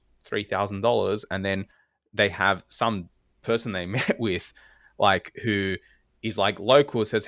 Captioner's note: laugh